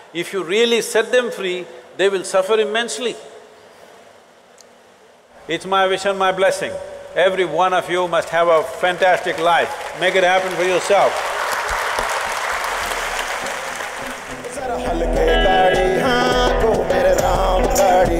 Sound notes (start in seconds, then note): 12.8 applause